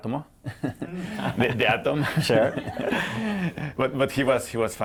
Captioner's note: laughter